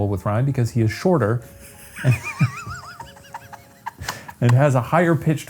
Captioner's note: Ryan laughs